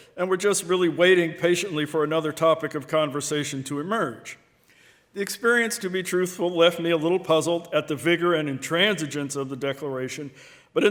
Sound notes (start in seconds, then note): none